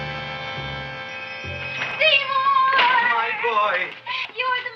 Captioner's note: bell ringing